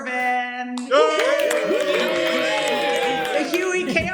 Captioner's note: cheers and applause